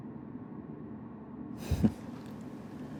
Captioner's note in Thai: เสียงสุพจน์พ่นลมขำ